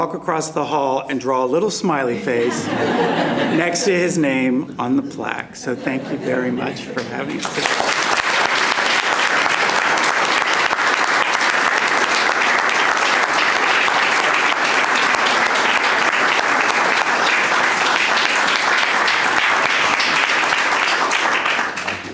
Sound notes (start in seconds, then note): 2.1 laughter; 6.9 applause